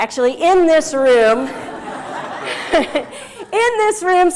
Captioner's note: laugh